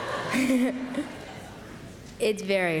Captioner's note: laughter